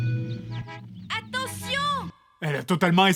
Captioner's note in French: Bruits de klaxon